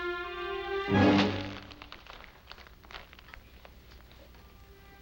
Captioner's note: paper rustling